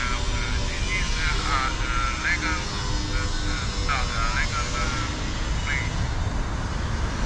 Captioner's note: Italian